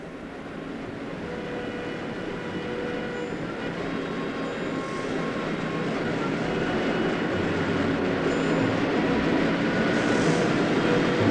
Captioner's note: car noise is heard